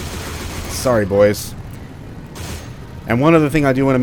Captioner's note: pew pew